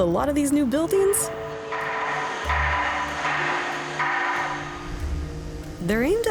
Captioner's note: construction noise